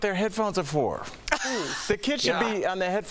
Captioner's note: laughter